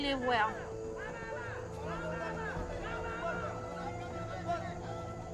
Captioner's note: shouting continues